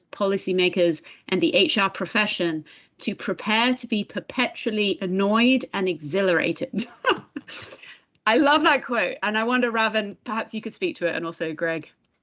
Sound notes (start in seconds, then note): 6.8 laughs